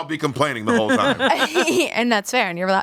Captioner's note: everyone laughs